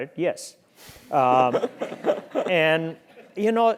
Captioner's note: laugh